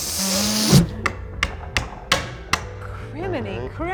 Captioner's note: hammer thumping; loud inhalation sound effect